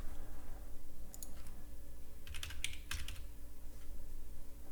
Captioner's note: typing continues